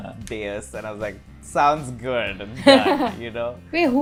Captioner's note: laughter